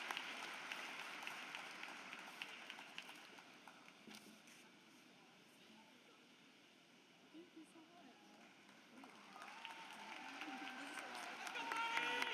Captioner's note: applause